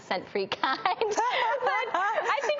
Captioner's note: laughing